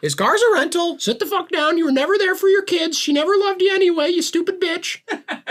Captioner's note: parrot voice